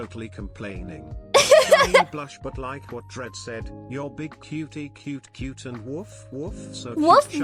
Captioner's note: laughs